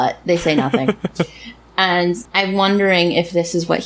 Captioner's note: laughs